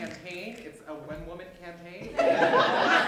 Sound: laughter

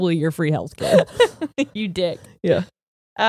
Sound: laughs

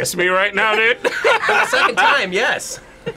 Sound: both laugh

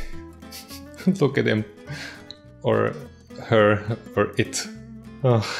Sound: chuckles

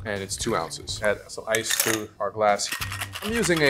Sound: ice clattering

